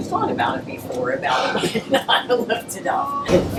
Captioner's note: laughing